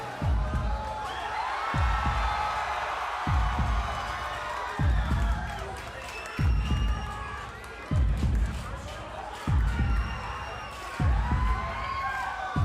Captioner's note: crowd cheering